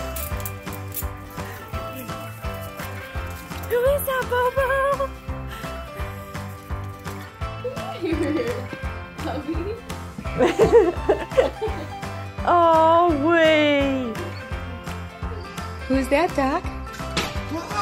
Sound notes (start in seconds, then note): 10.2 onlooker laughing